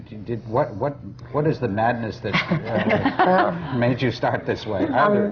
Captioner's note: laughter